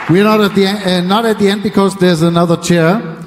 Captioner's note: applause